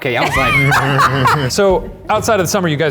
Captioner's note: laughing